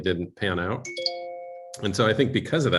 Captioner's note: notification